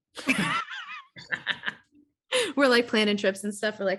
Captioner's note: laughing